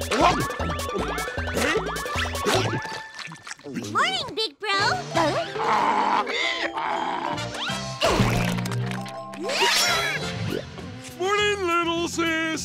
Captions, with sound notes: Morning, big bro. Huh? [oinking] Morning, little sis.